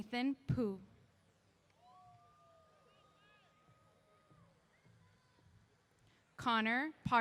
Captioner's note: cheers